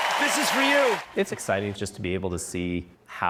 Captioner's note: cheering